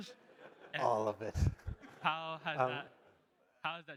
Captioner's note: audience laughing